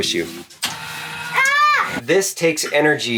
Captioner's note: lift whirring